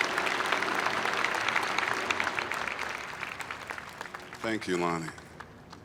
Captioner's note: applause